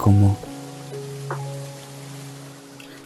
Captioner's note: rain